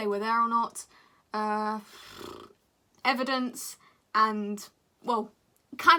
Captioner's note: dramatic raspberries